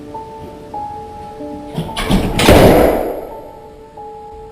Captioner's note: door banging